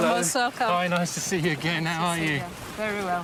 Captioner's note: speaking in a foreign language